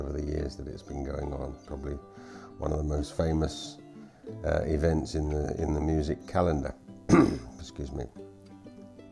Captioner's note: clears throat